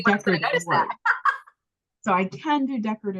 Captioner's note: laughs